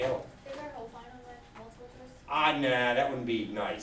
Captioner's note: student speaks softly